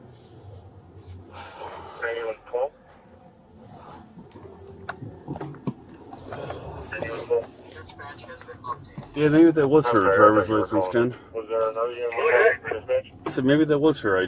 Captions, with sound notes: Steady on 12 Steady on 12 Dispatch has been locked in Yeah, maybe that was - (Radio chatter) - her driver's license, 10 (Radio chatter) I said maybe that was her ID